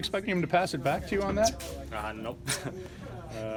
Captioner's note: laugh